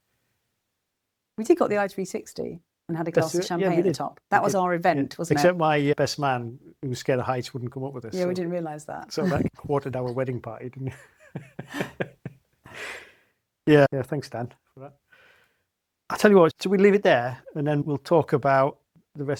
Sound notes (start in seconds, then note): 12.3 laughs